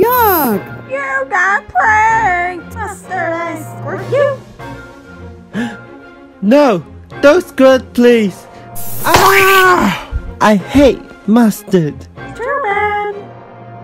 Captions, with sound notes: You got pranked! “Mustard” I squirt you? [GASPS] No! Don’t squirt please! Aah! -Ugh. I hate mustard. -Too bad!